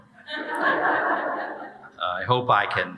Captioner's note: audience laughing